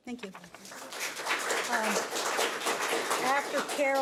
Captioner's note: audience applauds